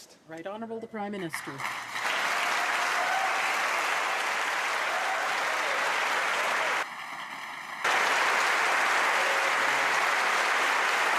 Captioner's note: applause and cheers